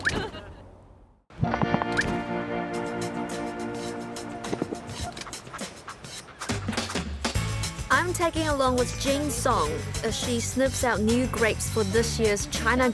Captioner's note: laughter